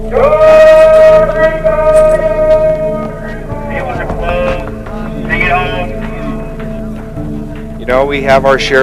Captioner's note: shouting